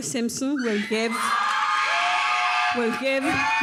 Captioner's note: audience cheers